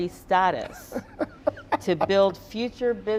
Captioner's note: Donovan laughing